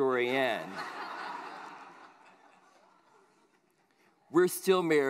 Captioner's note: laughter